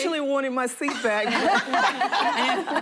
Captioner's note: laughter